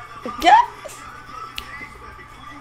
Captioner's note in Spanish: chasquido